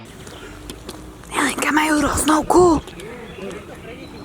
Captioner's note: whispers